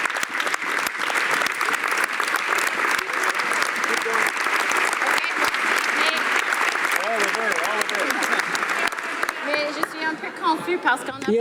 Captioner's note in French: applaudissements